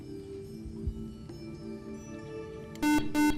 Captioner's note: buzzer